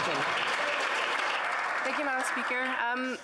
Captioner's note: some Applause